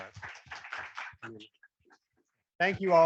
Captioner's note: attendees applauding